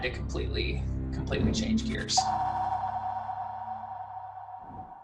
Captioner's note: spacey tones